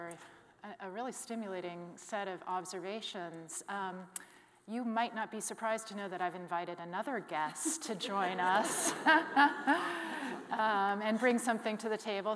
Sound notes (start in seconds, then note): 7.7 all laughing